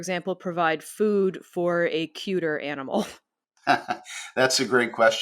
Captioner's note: chuckles